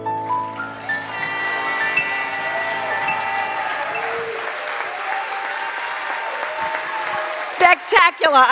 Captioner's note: cheers and applause